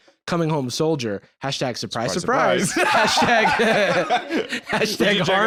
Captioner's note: both laugh